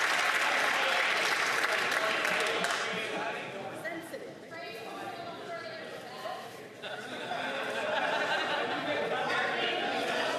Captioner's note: some Applause